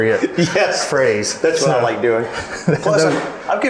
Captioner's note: laughing